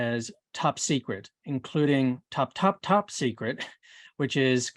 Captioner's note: chuckles